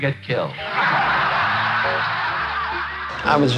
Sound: laughing

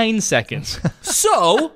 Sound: laughs

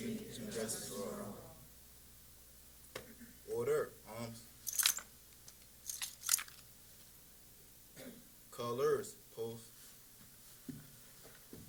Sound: silence

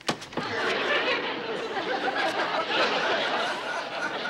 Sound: laughter

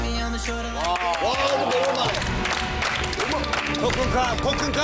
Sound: big applause

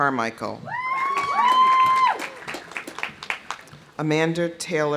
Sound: audience cheering; audience applauding

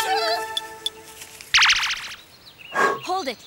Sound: whimper

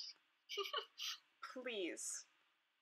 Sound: laughing

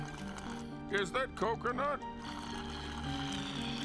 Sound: slurping

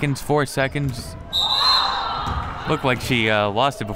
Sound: whistle

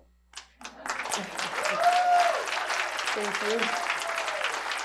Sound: cheers and applause

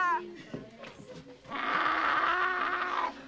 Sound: woman growling

